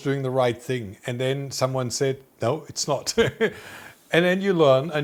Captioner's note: chuckling